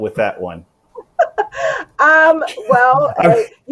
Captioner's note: laughs